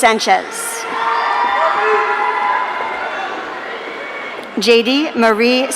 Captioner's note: audience cheering